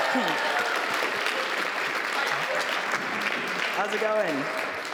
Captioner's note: applause